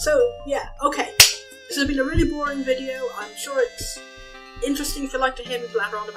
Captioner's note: claps